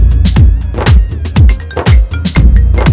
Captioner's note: Phone ringing